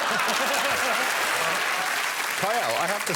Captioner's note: laughter